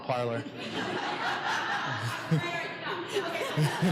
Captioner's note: laughing